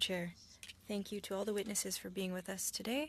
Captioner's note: speaking French